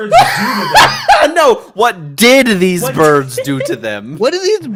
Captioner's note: incredulous; still laughing